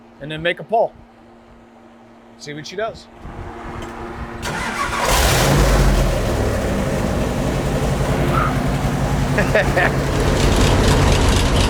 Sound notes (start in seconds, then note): 4.9 engine rumbling